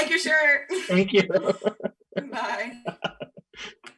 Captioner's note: laughing